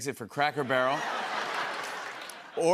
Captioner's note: laughter